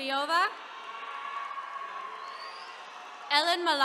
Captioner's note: attendees cheering